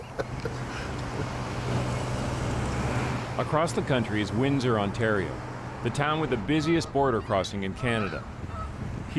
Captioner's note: laughter